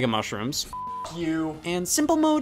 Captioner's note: beeps